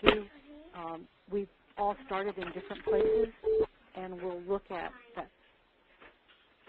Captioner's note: beeping